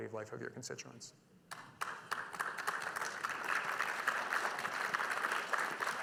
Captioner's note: audience applauding